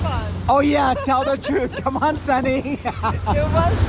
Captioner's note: laughs